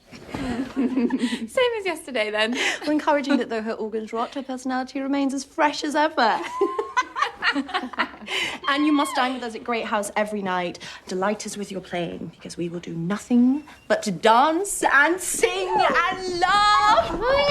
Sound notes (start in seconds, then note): 0.2 giggling; 6.3 all laugh